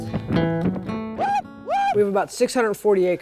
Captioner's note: yelling